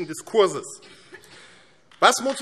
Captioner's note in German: Beifall AfD